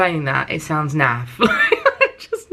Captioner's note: laughs